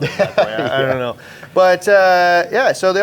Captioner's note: laughs